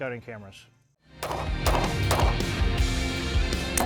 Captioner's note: gunshots